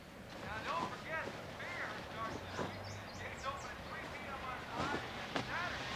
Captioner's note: tv playing in background